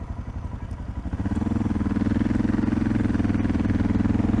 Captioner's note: motorcycle sounds